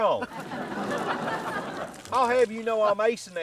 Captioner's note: audience laughing